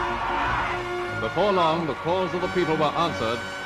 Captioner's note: voiceover